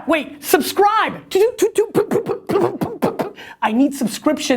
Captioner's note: popping noises with mouth